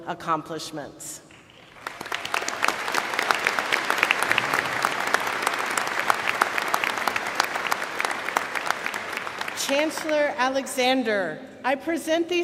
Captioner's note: applause